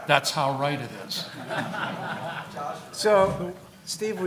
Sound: laughing

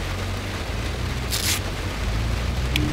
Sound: riiip

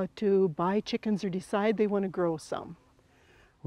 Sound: none

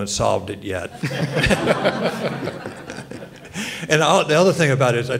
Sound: panelists and audience laughs

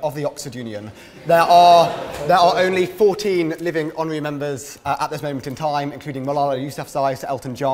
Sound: laughter

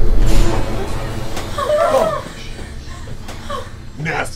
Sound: whimpering

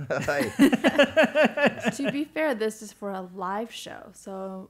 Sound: laugh

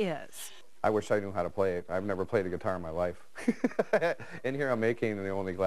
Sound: laughs

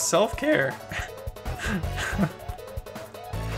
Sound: laughter

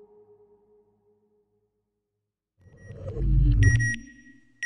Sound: beeping

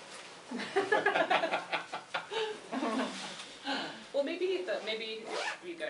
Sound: laughter

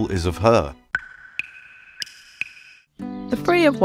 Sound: dripping sounds

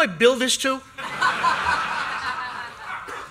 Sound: laughter

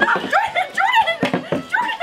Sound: all exclaiming

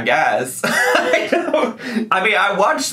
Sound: laughing

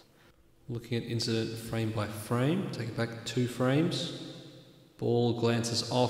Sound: calm voice with stadium-like reverb

